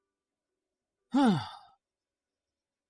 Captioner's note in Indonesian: Menghela napas